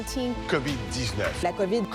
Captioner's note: speaking French